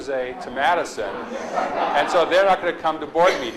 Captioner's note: audience laughs